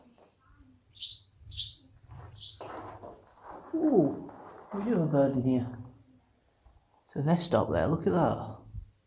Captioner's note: brid tweeting